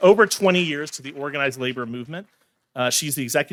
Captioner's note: audience clapping